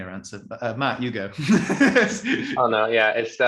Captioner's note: chuckles